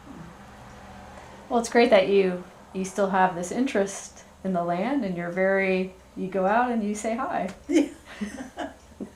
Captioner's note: laughter